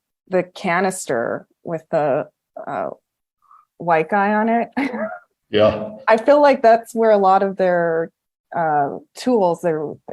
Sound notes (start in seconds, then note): 4.7 laughs